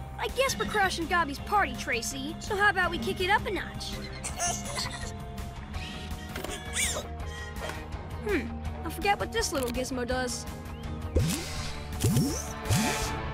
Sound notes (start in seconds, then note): 4.0 giggling